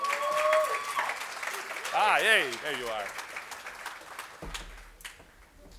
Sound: applause

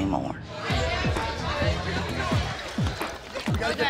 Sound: patrons chattering

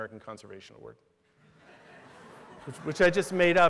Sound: laughter

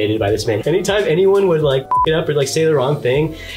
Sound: beeps

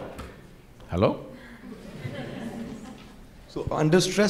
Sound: laughter

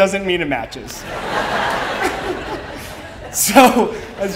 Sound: laughing

